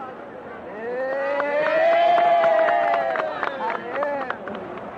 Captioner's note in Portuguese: Aplausos e gritos alegres